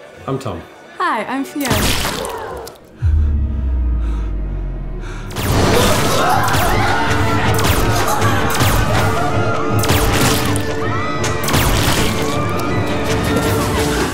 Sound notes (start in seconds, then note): 1.6 squelchy splatter; 5.4 laser beams and people screams